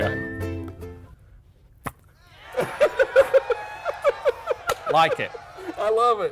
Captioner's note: cheering